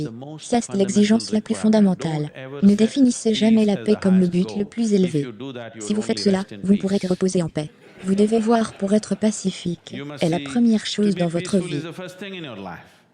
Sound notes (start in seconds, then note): 7.7 audience laughs